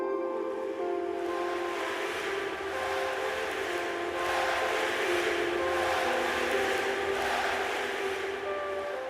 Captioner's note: crowd chanting